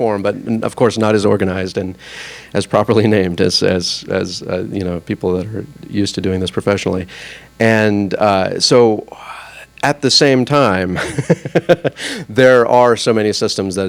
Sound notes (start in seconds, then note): 11.0 laughs